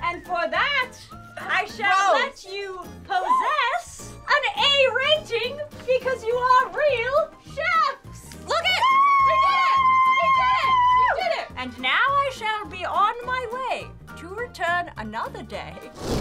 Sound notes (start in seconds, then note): 3.2 exclaim; 8.8 cheering